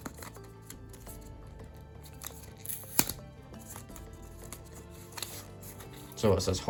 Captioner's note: paper unsnaps and tangles